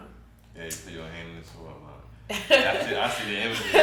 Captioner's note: speaking faintly; chuckles